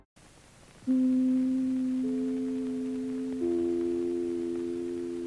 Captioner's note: NBC chimes plays